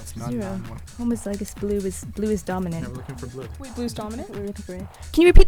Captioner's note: wispering